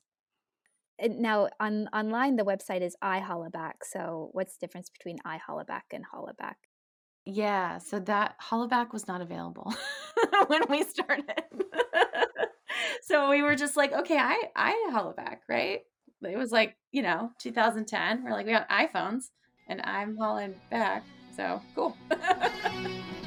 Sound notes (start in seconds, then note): 11.1 laughs